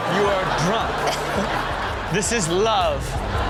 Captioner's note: Chanel and audience laugh